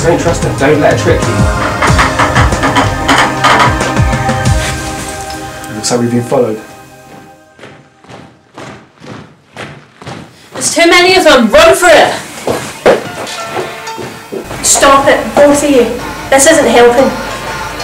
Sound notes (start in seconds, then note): 1.3 metallic sound